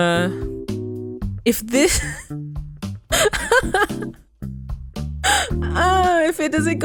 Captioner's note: laugh crying